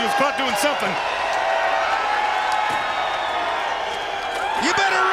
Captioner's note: crowd cheering